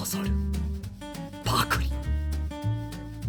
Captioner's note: gulp